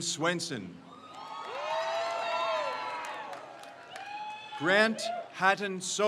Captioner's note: crowd cheers